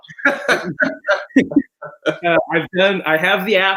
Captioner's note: laughs